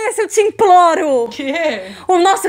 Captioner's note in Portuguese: rindo